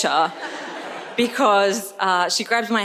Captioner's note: audience laughs